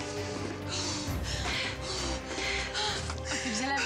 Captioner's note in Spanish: gemidos